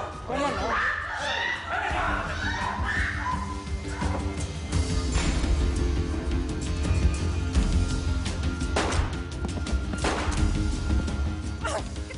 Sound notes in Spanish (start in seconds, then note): 0.4 Griterío; 10.0 Disparos